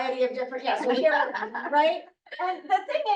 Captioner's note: chuckling